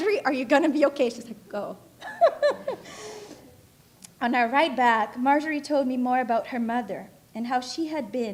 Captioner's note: laughing